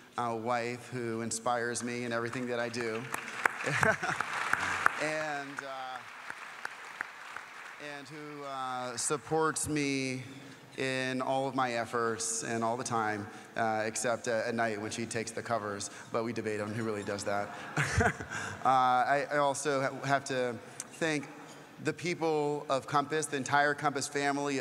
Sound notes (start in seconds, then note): 7.2 applause; 7.9 laugh; 17.4 laugh